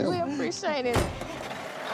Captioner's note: engine starting